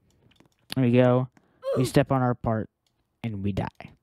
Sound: oof sound

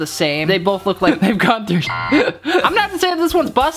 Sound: beep

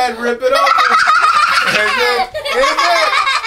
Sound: laughter

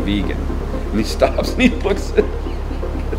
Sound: laughs

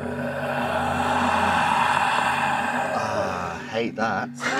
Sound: Vecna sound effect

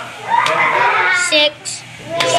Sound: children giggling

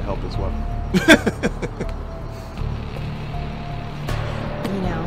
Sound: loud chuckle

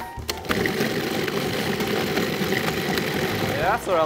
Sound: mixer whirring

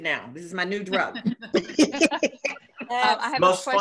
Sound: laughter

